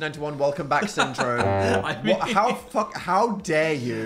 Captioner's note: Phil laughs